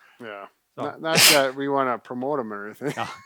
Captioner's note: laughs